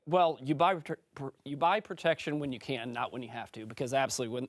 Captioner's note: French